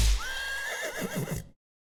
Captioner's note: horse neighing